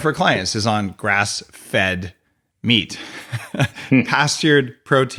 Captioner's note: laughs